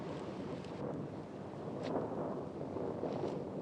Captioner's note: thunder continues rumbling